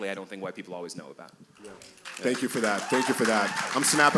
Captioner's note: cheers and applause